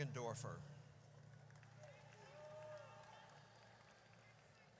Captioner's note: audience cheers